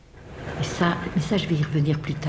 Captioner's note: speaking french